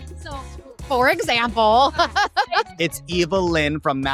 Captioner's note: Ariana laughs